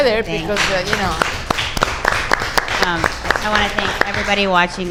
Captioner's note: audience applauds